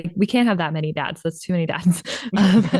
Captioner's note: laughter